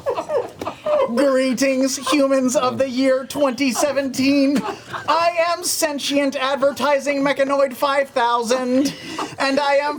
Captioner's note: laughter; robot voice